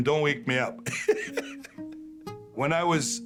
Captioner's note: laughs